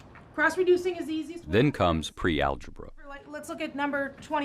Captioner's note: voiceover